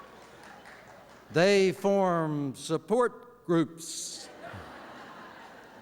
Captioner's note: laughter